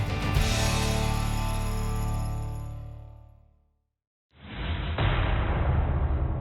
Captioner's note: metal clash